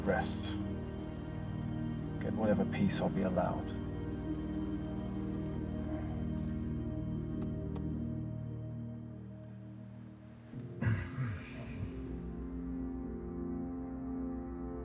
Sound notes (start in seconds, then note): 7.8 hand patting; 10.9 soft melodic music